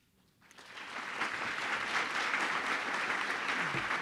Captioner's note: audience applauding